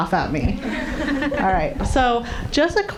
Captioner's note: audience laughing